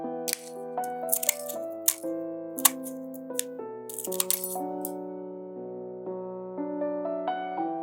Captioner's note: none